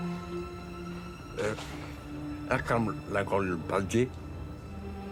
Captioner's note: speaks with difficulty